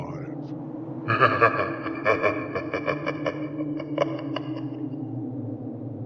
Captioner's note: creepy laugh